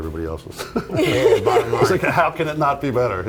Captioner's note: laughter